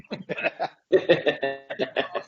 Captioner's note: chuckles